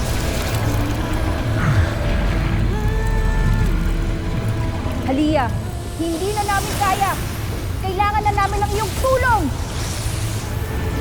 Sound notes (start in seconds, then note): 0.0 powerful whoosh-crackle; 1.6 grunts